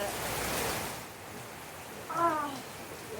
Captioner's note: loud rain